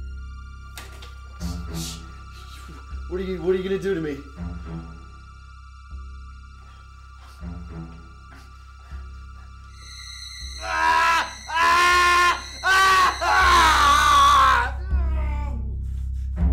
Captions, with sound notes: - What are you gonna do to me? (dramatic chord) (cries out)